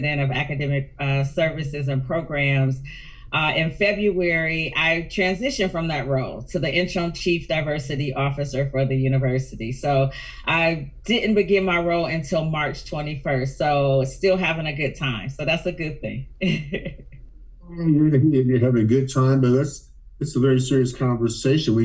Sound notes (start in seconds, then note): 17.7 laughs